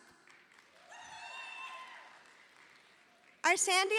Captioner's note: audience applauding